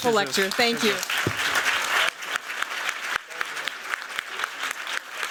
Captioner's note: applause